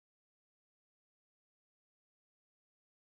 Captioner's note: none